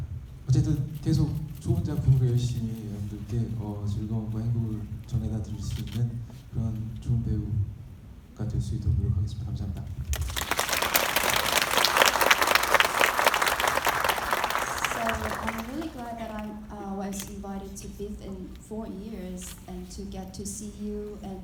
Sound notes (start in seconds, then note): 10.1 audience clapping